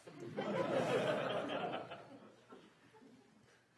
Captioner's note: audience laughs